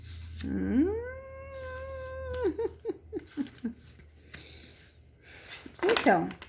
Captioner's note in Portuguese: risadas